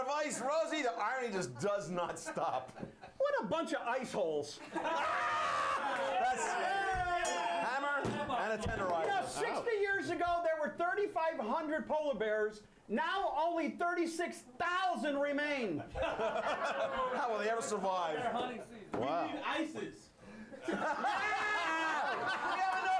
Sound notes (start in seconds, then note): 4.6 laughter; 7.2 bell rings; 21.8 laughter